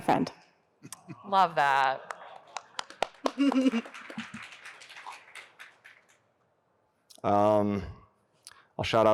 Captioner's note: applause